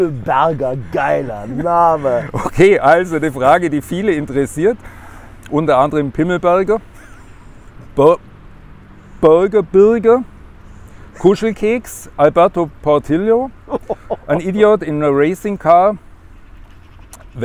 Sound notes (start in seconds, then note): 6.9 laughter